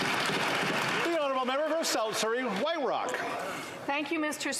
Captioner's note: some Applause